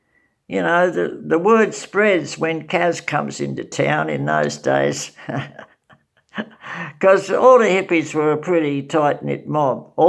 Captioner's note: ha ha